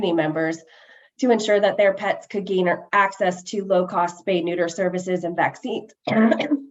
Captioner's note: coughs